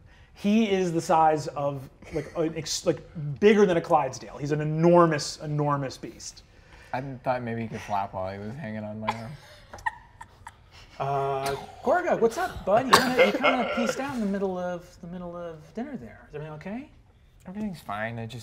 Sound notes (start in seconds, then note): 9.1 laughs